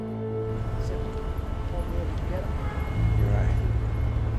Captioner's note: Jimmy chattering